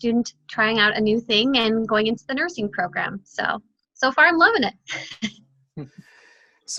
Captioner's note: laughing